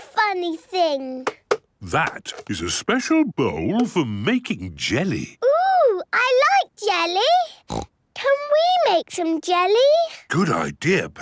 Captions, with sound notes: - What is this funny thing? - That is a special bowl for making jelly. - Ooh! I like jelly! (snorts) Can we make some jelly?